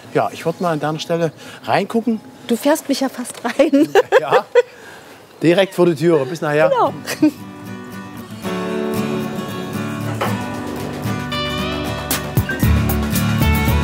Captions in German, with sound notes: An deiner Stelle würde ich reingucken. (lacht) Du fährst mich fast rein. - Ja, direkt vor die Tür. Bis nachher.